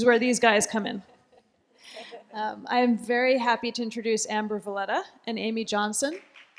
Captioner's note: laughter; applause